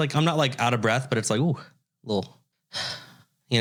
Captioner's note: sigh